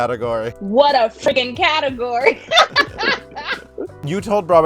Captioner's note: laughing